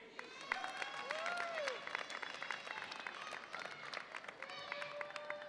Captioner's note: audience applauds and cheers